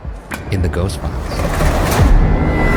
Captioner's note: drawer rasps and thuds; eerie music